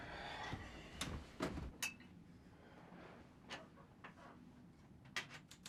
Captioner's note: Ben sighs; footsteps retreating; typewriter keys clacking